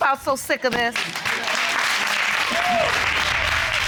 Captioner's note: audience applauding and cheering